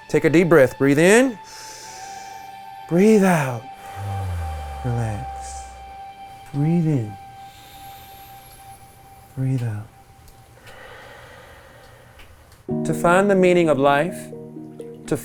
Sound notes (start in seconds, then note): 3.2 inhales; 3.2 exhales; 7.9 everyone inhales; 10.5 everyone exhales; 14.0 melodic music